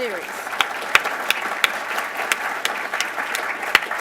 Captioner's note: applause